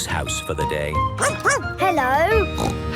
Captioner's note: barking; snorting